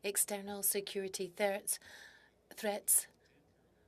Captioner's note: speaking French